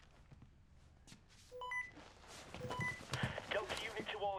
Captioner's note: walkie talkie